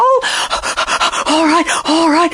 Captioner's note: lion panting